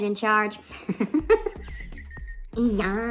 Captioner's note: wheezing